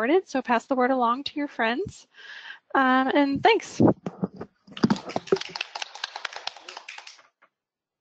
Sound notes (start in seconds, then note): 4.7 applauds